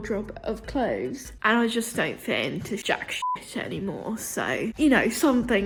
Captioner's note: beep